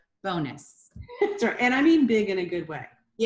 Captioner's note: chuckles